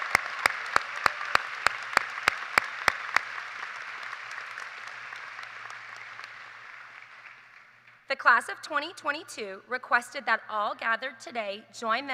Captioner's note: cheers and applause